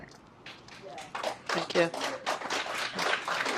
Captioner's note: applause